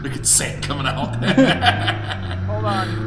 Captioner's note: laughing